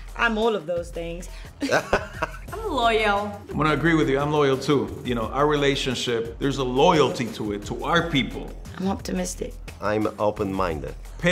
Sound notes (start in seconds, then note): 1.6 Tenoch laughs